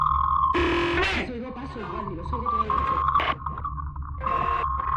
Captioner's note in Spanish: Voces distorsionadas